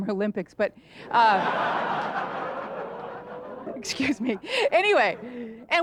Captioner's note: audience laughter